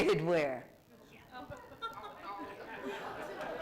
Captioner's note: laughter